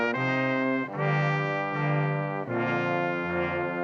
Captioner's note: none